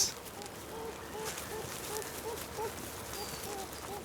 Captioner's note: kits whining